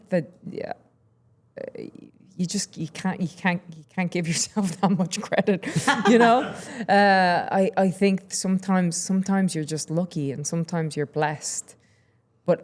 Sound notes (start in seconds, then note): 5.4 Steph laughing; 5.6 laughing